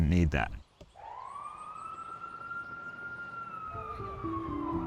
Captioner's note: sirens blaring